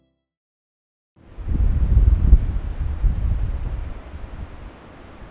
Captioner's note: wind humming